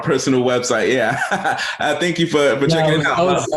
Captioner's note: chuckles